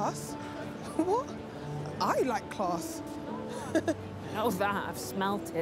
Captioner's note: laughs